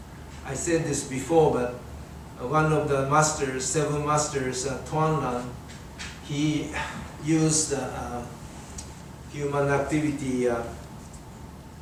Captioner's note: audience coughs